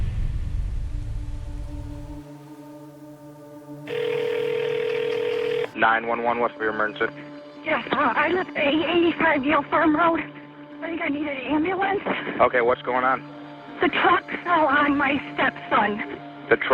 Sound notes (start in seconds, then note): 3.8 phone ringing